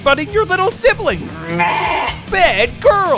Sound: bleating

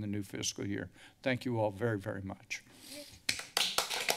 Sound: sniffles; applause

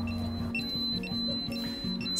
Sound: beeping continues

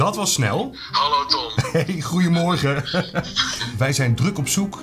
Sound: laughs

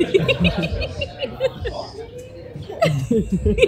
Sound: laughing

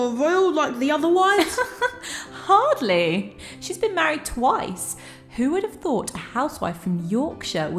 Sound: giggles

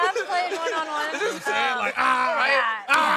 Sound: shouting

